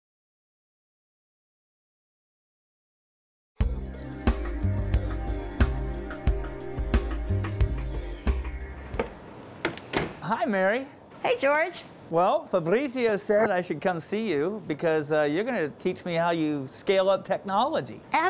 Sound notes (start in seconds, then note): 3.6 upbeat music; 9.6 plastic clanging; 9.7 machines revving